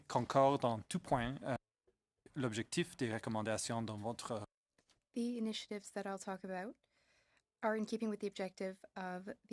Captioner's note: speaking French